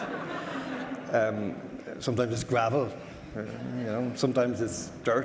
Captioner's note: audience laughter